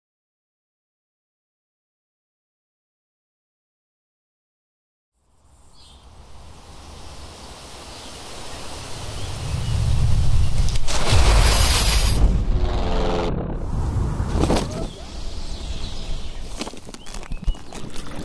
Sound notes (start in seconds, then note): 5.2 nature sounds; 5.5 airplane engine